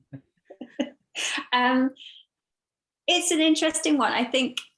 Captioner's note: laughs